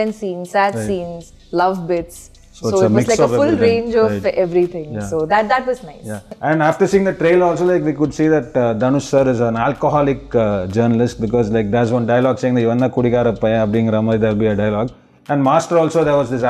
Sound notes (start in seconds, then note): 14.3 Tamil dialogue